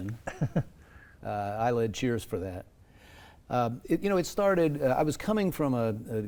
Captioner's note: laugh